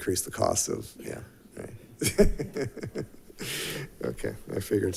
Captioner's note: laughs